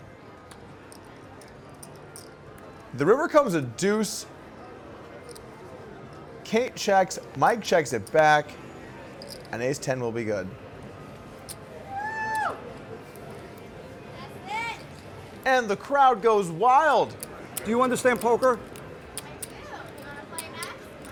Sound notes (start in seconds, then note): 11.8 soft cheering